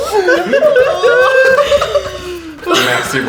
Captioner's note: laughter